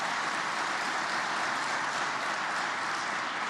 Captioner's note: applause